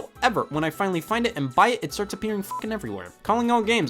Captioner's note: beep